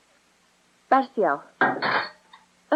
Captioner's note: thuds